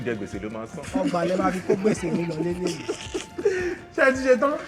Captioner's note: laughs